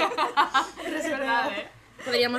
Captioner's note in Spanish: risas